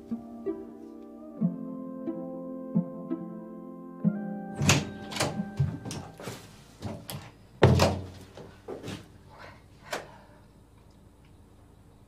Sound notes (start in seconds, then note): 9.3 sighs